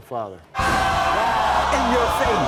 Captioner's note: audience jeering